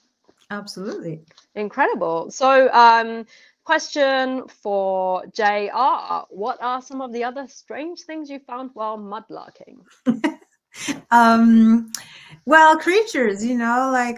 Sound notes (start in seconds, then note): 10.3 laughter